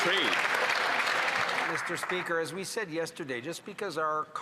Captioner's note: some Applause